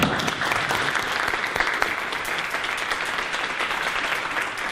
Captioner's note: audience applause